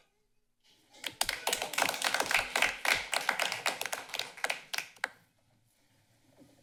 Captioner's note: applause